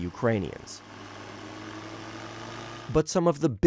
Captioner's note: propeller whirring